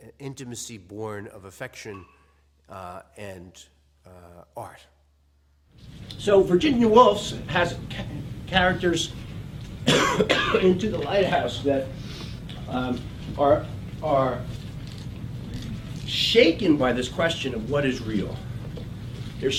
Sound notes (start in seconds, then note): 9.8 cough